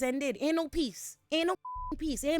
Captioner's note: beep